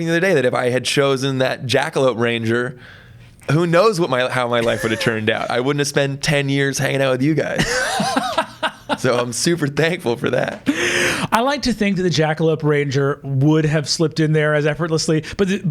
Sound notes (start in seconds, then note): 7.5 laughs